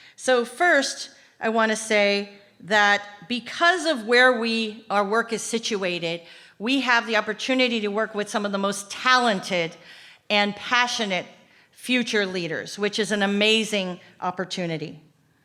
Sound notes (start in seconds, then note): none